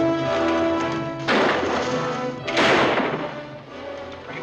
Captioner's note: guns firing